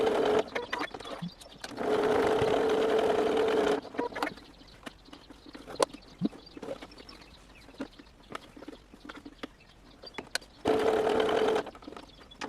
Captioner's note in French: bruit de la machine